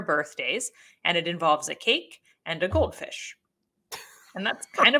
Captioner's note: laughs